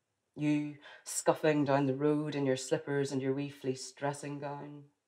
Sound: none

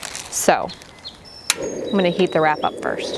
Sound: flame igniting

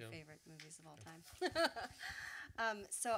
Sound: laughs

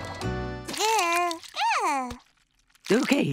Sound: babbling

